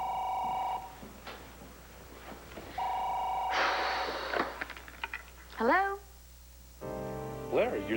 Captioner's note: telephone rings